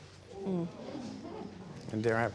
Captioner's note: audience exclaims